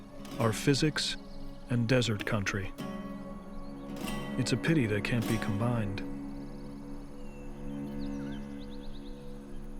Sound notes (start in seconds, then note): 6.6 birds singing